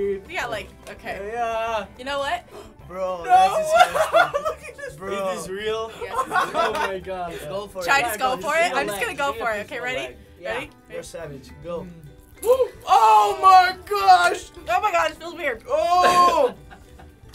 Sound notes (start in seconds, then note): 3.3 laughing; 12.0 spider crunching